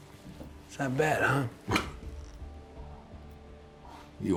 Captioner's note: scoffs